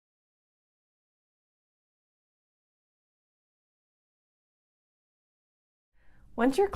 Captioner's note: silence